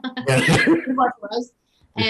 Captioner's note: laughter